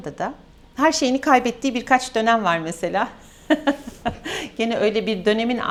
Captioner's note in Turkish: kahkaha